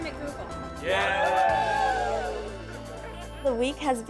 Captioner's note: cheers